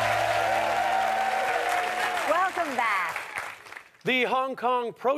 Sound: audience applause and cheers

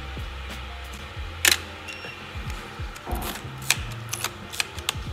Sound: camera shutter clicks

